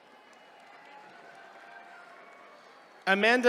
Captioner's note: attendees cheering